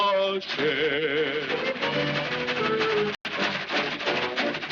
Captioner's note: whistling